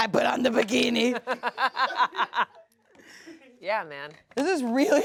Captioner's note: everyone laughs